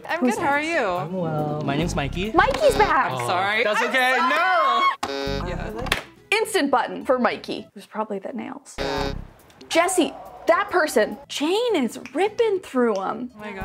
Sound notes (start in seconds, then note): 2.7 button buzzing; 4.2 squealing; 5.0 button buzzing; 8.8 button buzzing